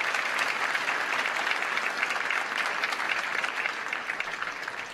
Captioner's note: applause